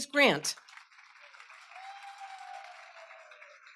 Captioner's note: applause